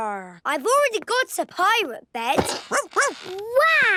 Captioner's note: barking